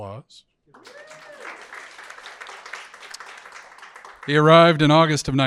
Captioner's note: audience applauding